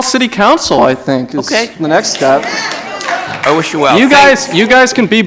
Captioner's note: applause